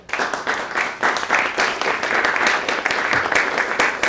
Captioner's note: applause